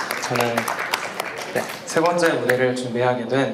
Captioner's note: applause